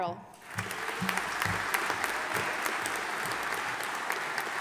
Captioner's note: audience applauding